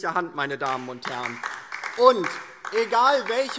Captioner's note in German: Beifall DIE LINKE